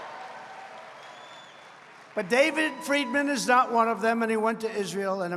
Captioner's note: applause